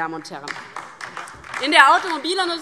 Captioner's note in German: Beifall DIE LINKE